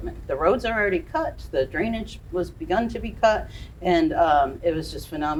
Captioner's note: none